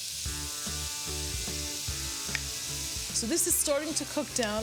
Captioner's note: vegetables are sizzling in pan